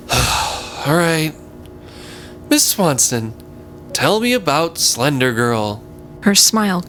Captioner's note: sighs